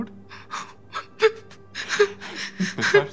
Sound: Juliet crying

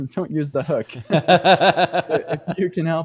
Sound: laughs

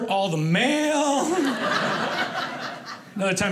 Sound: audience laughing

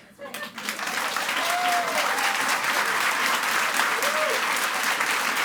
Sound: audience applauds and cheers

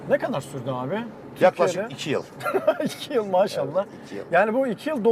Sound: laughs

